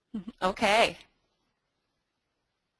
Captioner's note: chuckles